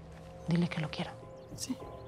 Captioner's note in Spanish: susurra